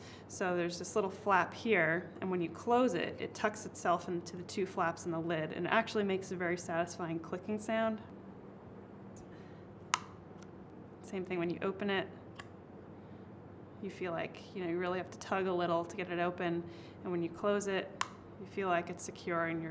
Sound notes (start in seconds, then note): 9.9 click